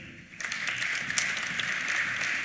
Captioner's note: applause